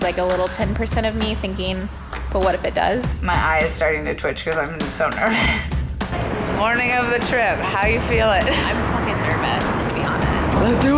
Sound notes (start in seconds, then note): 5.9 chuckles